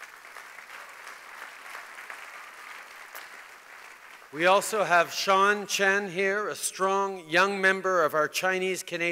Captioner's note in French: Applaudissements